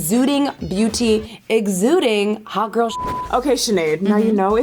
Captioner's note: beep